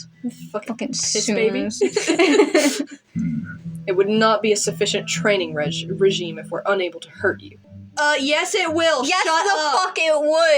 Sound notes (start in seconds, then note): 1.8 both Laugh